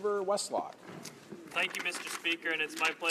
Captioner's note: speaking in french